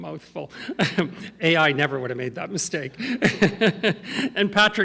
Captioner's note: laughs